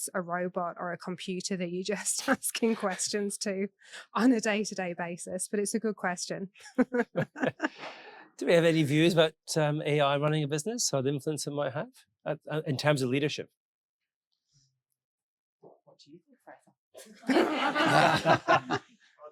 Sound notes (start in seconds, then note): 6.6 laughs; 15.9 faintly speaking; 17.0 audience laughing